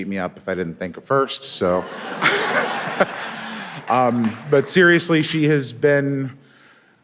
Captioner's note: laughs